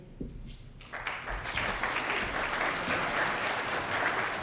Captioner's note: applause